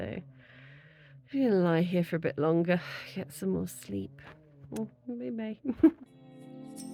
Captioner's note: kiss